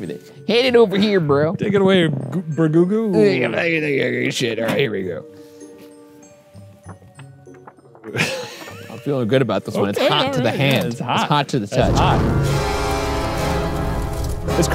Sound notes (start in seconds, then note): 8.0 laughs; 11.7 dramatic music